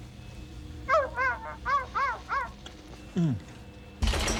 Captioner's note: <i> dog barking</i>